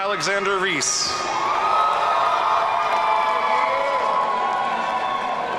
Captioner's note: audience cheering